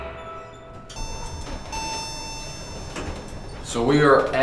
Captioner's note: elevator dings